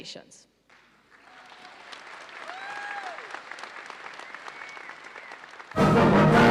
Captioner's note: audience cheers and applauds